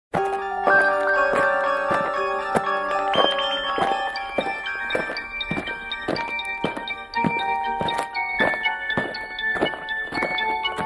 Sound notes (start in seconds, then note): 0.1 alien footsteps; 0.3 eerie music